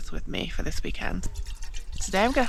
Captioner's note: water sploshing